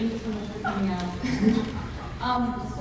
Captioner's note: laughs